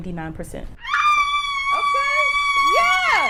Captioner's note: student squeals